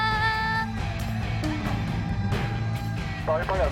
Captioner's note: heavy footsteps